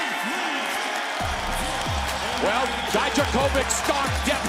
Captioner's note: crowd cheering